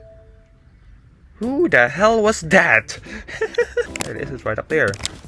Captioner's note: player leave sound; chuckling